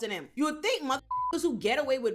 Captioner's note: beep